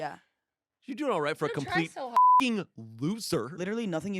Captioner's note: beep